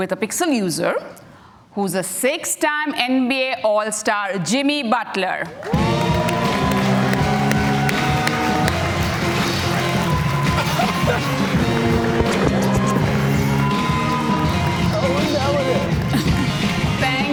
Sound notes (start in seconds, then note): 8.2 cheers and Applause